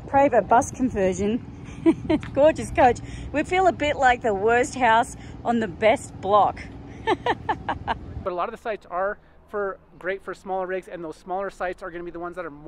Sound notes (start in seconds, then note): 1.6 laughs; 7.0 laughs loudly